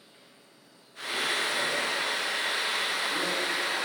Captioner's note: A loud whirring sound